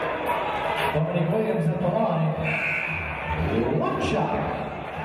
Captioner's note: buzzer